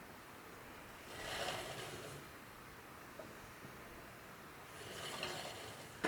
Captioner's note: door opens